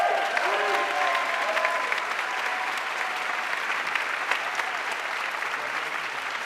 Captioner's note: audience cheering and applauding